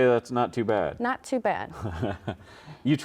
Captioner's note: laughs